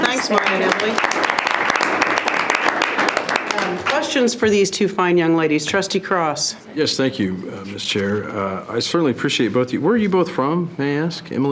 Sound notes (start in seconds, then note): 0.0 trustees applauding